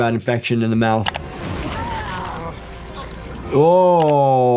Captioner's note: screen clicking